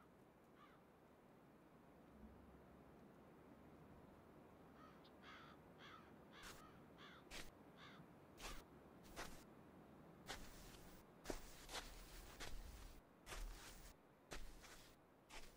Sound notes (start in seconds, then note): 4.8 birds cawing